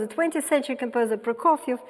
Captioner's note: none